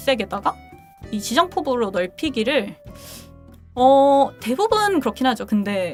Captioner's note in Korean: 콧방귀